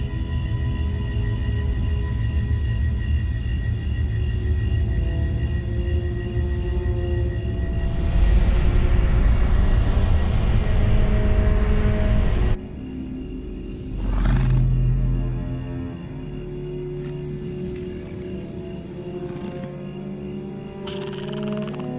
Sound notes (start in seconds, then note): 0.2 soft eerie music; 13.9 alien growls softly; 18.6 deep mysterious music